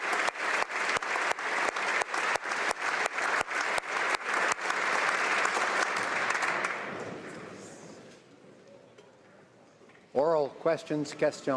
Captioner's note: applause